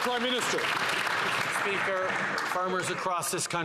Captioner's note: some Applause